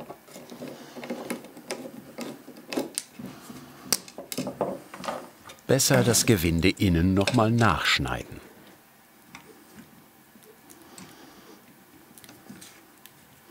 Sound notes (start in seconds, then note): none